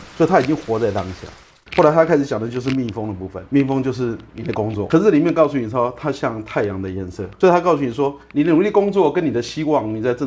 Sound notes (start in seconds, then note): 6.3 wind